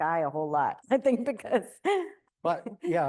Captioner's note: chuckles